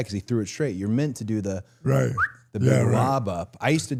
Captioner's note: whistles